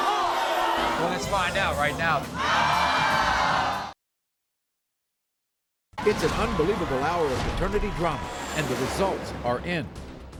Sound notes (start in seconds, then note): 2.0 audience awes